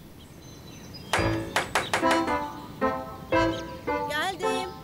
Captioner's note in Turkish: kapı sesi